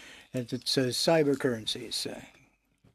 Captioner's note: speaking French